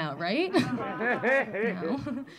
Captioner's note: audience laughing